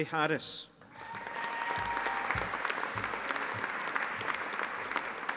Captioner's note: audience applauding